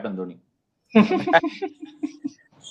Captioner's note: laughs